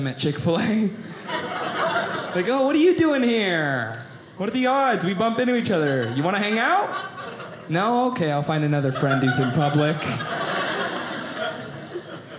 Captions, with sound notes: at Chick-fil-A. I go, oh, what are you doing here? What are the odds, we bump into each other. You want to hang out? No? OK, I'll find another friend who's in public. (audience laughing)